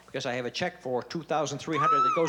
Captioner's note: screams